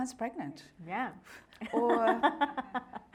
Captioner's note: laughing